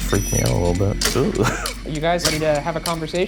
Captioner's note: laughing